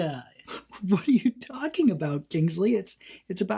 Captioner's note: laughs quietly